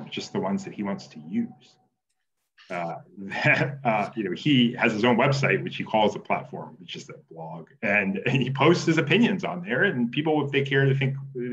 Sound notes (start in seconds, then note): 2.8 laughs